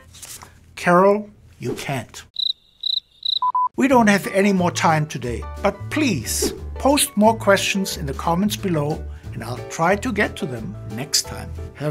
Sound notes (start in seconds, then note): 2.3 crickets chirping; 3.2 beeping